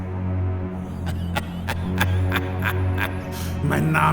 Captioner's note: laughs